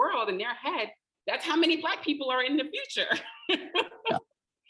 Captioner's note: laughing